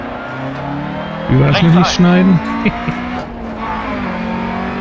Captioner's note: smug laugh